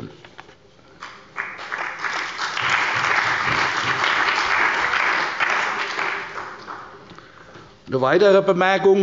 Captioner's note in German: Beifall bei der CDU und dem BÜNDNIS 90/DIE GRÜNEN